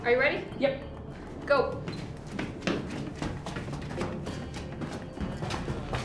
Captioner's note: footsteps thudding